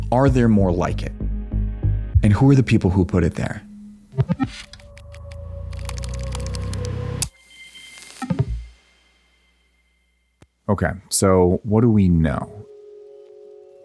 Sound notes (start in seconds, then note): 4.2 audio chiming; 5.7 keyboard clacking; 8.7 audio chiming